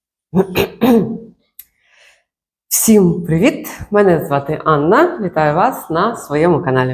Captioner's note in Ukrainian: прочищення горла